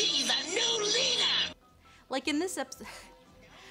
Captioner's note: laughs